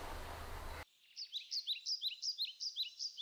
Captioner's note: birds chirping